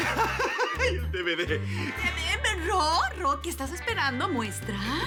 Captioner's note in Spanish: Risa nerviosa